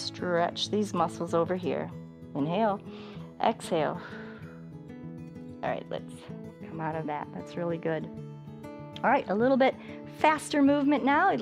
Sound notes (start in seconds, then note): 2.8 exhales; 4.0 inhales